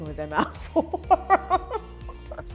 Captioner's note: laughs